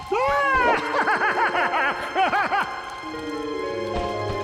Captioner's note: creepy laughter